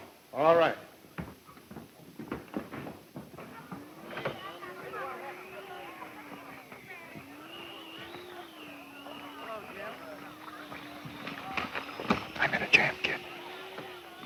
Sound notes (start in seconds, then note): 4.0 animated conversations; 12.5 whispers